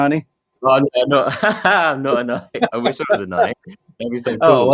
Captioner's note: laughing